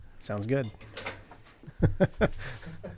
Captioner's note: laughing